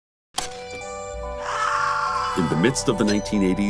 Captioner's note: TV clicking; screaming